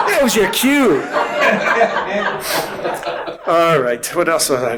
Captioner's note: audience laughing